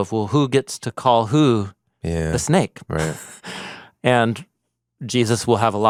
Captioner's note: laughs